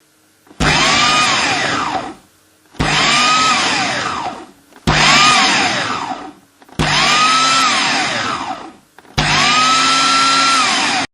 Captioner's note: sound of food processor